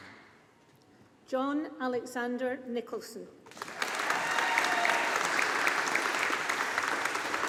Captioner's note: audience applauding